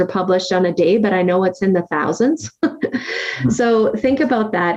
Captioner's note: laughs